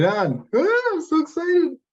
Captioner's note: shrieks